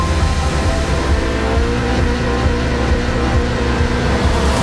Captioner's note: engines rev